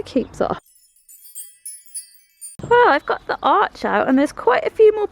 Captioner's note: wind chimes